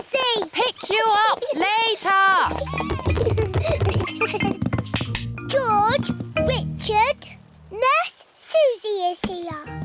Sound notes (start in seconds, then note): 2.4 both giggle